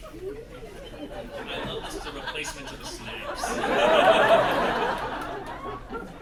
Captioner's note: whisper chanting "teeth teeth"